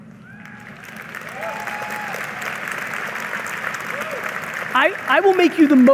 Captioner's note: audience applauding